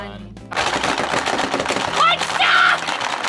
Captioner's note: marbles clattering